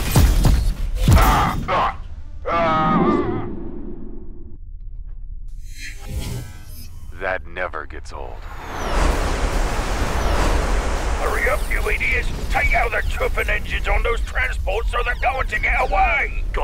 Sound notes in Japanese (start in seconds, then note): 2.5 海賊2がうなり声を上げる